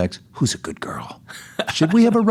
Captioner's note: laughs